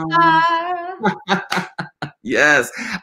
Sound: laughing

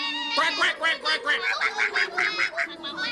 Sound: goose shouts angry; goose exclaims angrily

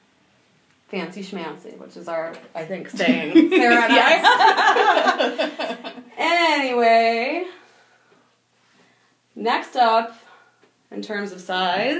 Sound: laughing

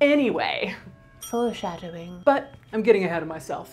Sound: dinging

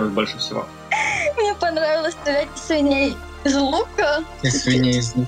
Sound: laughs

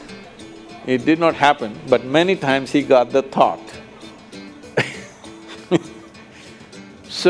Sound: laughs

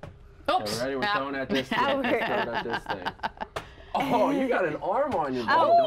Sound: laughter

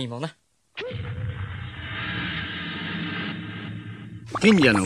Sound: SFX: magic laboratory sounds

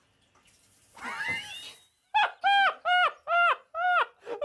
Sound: laughter

